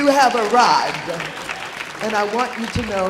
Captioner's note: audience applauding